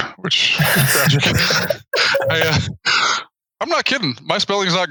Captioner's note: they both laugh